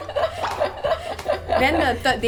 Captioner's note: laughter